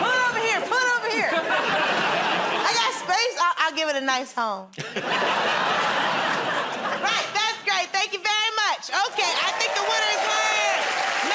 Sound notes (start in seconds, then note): 0.0 laughter; 4.7 laughter